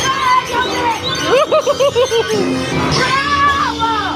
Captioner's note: spooky magical intro music; laughs nervously; screaming; spooky music